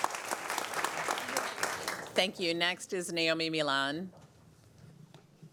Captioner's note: applause